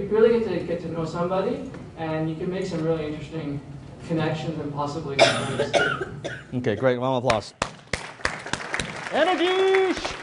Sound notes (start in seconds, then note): 5.1 coughing; 7.6 applause